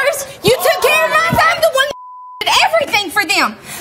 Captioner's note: beep